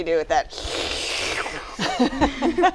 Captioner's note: all pretend slurping; laughter